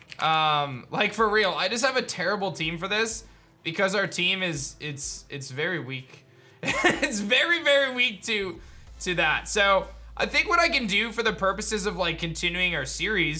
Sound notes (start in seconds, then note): 6.7 laughs